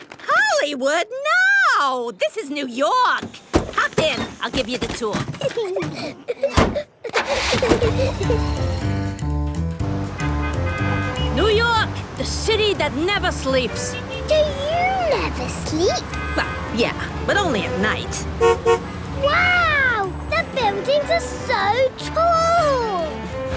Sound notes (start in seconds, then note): 5.2 Peppa and George laughing; 9.8 upbeat music, honking; 18.3 honks